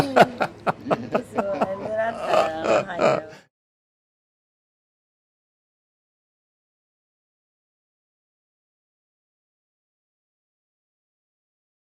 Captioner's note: chatter